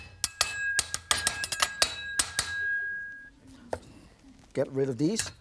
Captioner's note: knife chopping